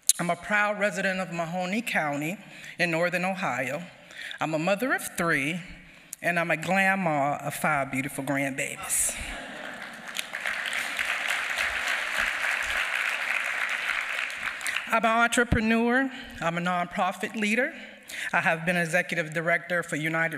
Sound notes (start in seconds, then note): 13.4 applause